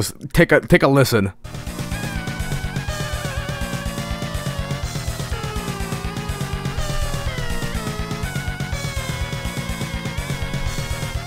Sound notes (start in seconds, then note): 4.5 the sound of some ungodly horror plays in the background